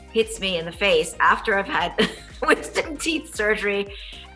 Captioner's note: laughs